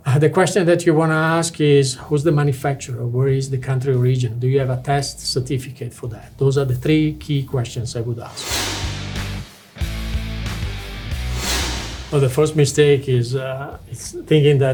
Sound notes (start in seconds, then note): 8.2 screen whooshing; 8.8 lively music